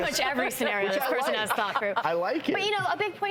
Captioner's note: laughs